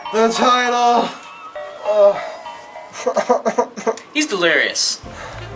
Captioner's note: moans